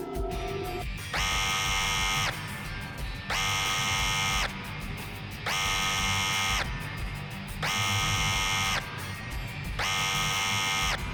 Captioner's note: box motors howl; alarm buzz